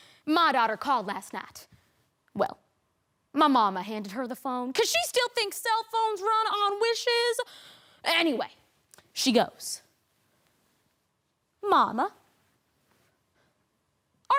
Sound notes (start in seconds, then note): 9.8 rustling